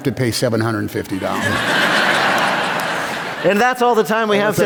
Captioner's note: laughter